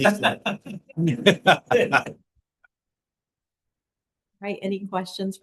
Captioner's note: laughter